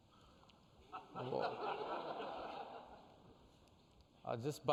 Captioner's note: laughter